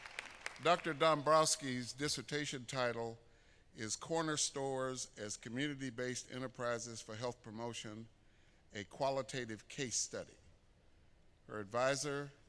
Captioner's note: applause